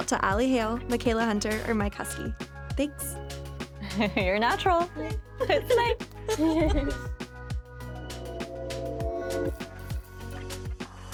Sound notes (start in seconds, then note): 6.2 all laugh; 7.6 light music continues